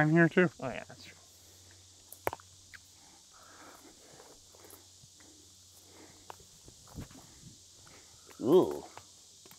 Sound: silence

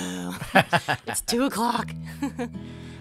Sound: laughs

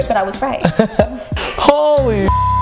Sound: laughs; beep

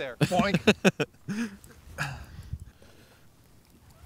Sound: laughing

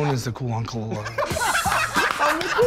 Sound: laughter

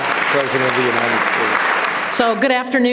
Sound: applause

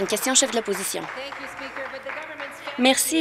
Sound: applause

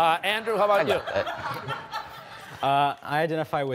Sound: laughter

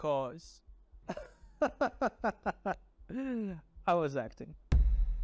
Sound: laughing

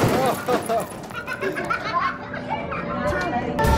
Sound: laughs

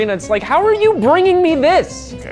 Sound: none

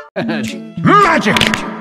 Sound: magic

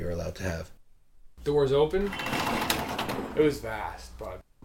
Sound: door opening sound

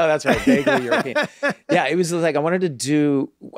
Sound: Charlie laughs

